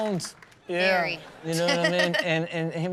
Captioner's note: laughs